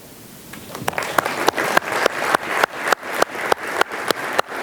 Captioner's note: audience applauds